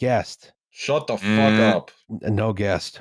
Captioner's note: makes a buzzer sound